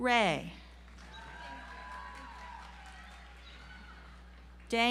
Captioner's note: audience applauds